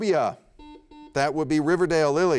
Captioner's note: buzzer beeps